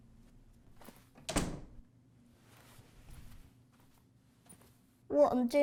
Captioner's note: door clicking